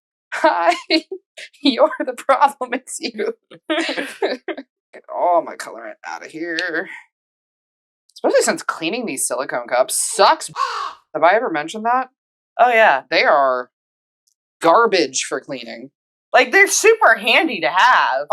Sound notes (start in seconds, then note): 10.6 caw